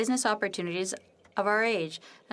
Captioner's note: speaking French